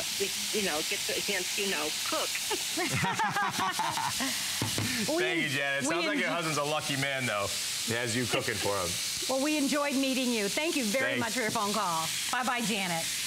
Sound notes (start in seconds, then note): 2.4 laughter